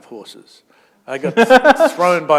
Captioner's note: laughter